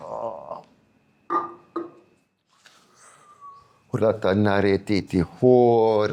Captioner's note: non-english speech